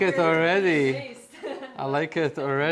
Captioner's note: laughter